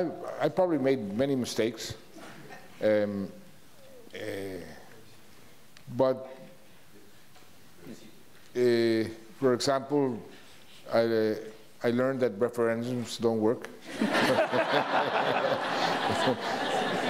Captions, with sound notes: I probably made many mistakes. For example, I learned that referendums don't work. (laughs) (audience laughs)